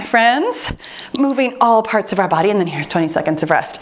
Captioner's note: timer beeps